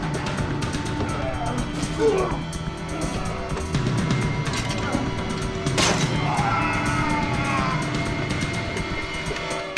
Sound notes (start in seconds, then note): 6.0 groaning